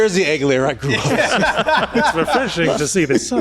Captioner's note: laughing